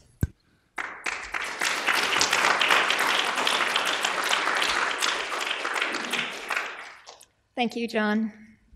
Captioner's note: applause